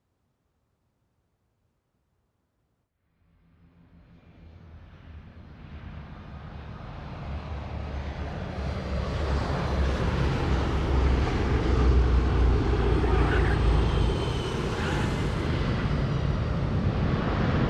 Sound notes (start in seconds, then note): 4.4 plane engines roaring; 13.7 tires screeching